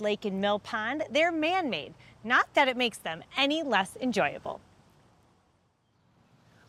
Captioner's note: none